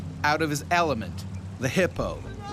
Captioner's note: voiceover